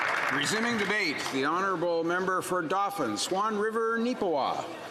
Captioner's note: some Applause